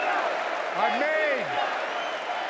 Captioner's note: applause; cheering